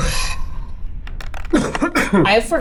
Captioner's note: dice clink